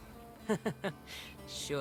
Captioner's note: laughs